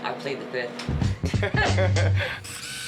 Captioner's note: chuckles